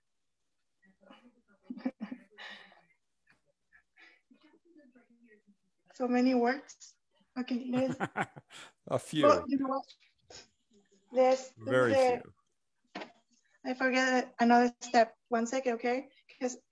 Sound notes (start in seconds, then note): 1.7 chuckles; 7.6 laughs